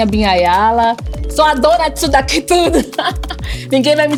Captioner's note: laughs